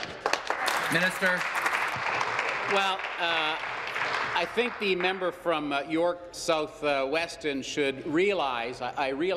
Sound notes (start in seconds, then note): 2.5 applause